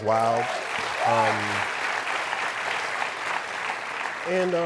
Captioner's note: applause and cheering